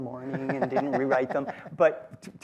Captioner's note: laughter